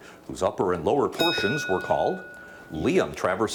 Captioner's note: bell dings